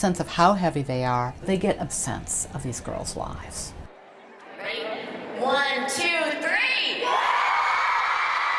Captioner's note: cheering and applause